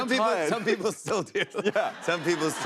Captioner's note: laughs